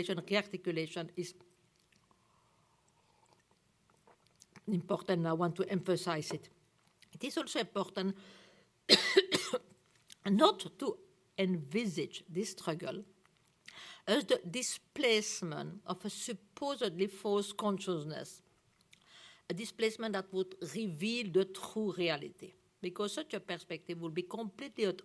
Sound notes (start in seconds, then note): 8.9 coughs